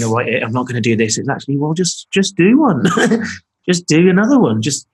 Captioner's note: laughing